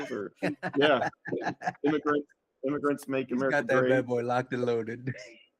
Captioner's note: laughing